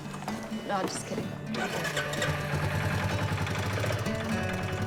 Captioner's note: engine rumbles